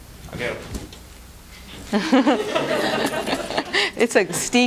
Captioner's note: laughter